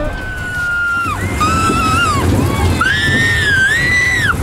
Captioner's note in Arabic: صراخ